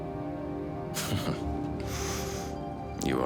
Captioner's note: man chuckles